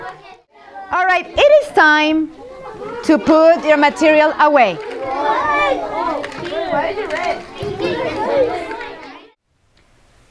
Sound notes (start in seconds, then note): 5.8 students chattering and moving about